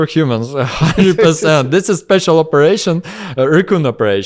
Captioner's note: laughs